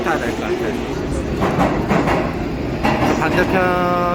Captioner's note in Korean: 정겨운 열차 소리